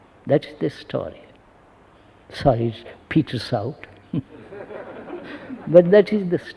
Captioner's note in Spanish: Risas